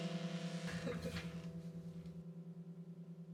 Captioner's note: laughter